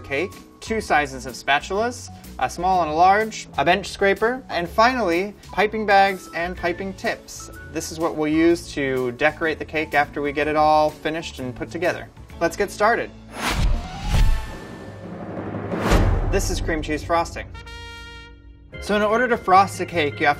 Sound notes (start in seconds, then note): 13.3 whooshing; 14.2 drum rolls